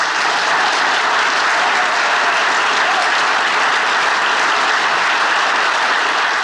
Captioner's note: audience applauding and cheering